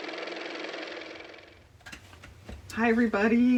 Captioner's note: car motor